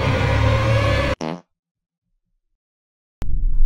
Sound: fart noise

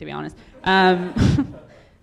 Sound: audience laughing

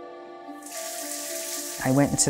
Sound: water pattering

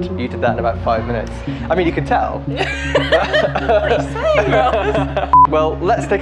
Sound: laughing

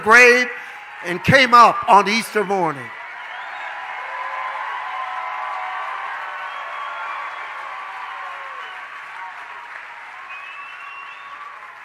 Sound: congregation cheers

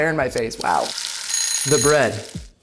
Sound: timer ringing

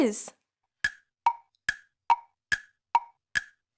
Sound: timer ticking

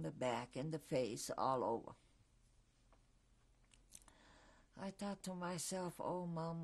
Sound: pauses for 3 seconds

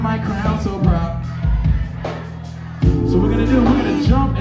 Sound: audience responds

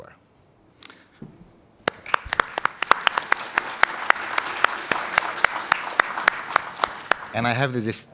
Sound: applause

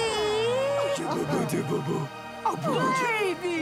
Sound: babbling

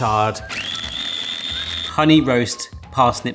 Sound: mixer whirring

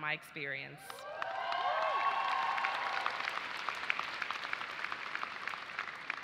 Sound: audience cheers and applauds

